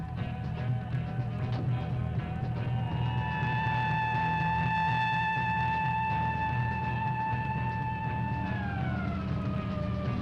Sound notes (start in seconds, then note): 2.6 siren blaring; 2.8 tense music continues